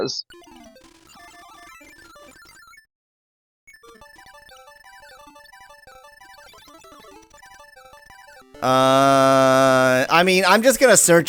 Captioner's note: awkward silence